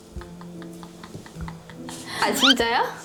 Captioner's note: breaks out in laughter